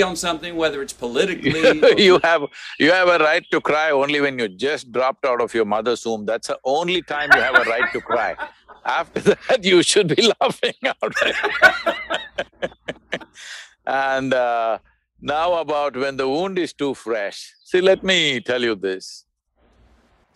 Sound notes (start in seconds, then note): 1.4 laughs; 7.0 Matthew laughs; 12.9 both laugh